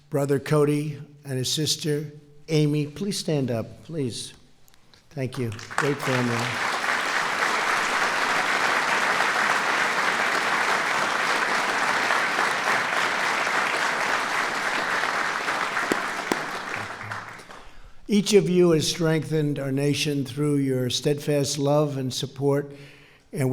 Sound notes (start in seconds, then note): 15.2 applause